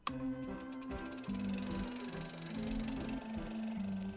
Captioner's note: film projector whirring